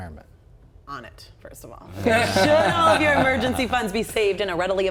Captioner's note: laughing